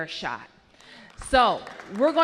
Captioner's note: applause